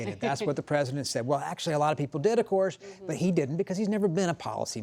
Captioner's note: laughter